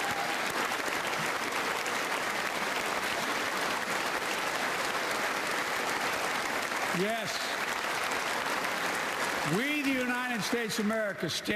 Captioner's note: applause